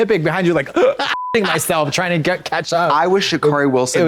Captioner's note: beep